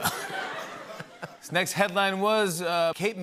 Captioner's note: laughter; normal voice